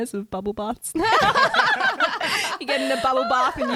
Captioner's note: laughing together